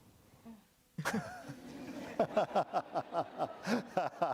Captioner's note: laughter